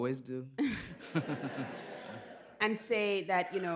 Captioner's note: laughter